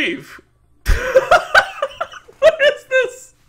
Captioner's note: laughs